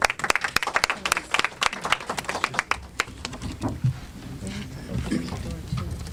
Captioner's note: clapping